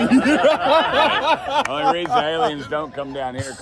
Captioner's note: laughing